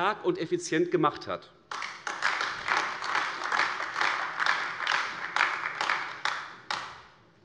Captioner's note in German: Beifall AfD